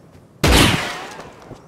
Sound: gunshot

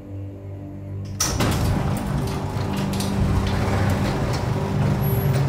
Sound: mechanical door opens

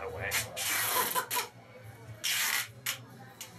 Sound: laughs

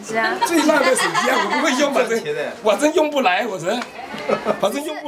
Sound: people laughing

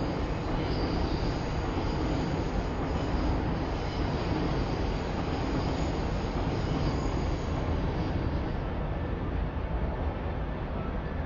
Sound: train Noises

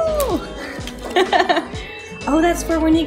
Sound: laugh

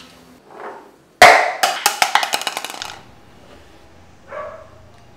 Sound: cup falling on the ground

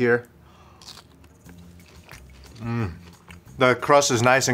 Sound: crunching

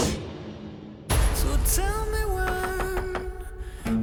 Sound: knocking

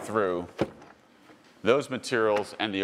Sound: car door clicks

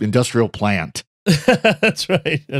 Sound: laughing

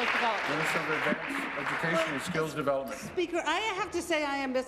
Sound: applause

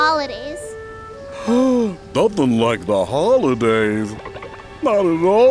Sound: gasps

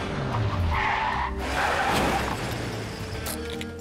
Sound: tires screech; crash

